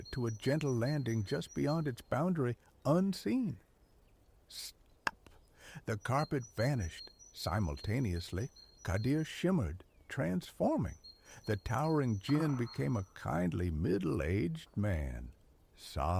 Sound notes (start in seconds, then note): 5.0 snap